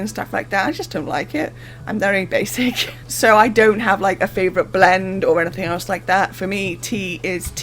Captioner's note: laughs